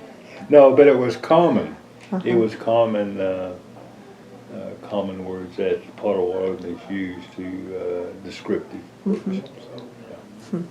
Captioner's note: laughter